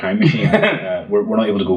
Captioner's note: laughs